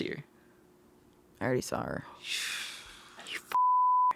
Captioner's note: exhales; beeping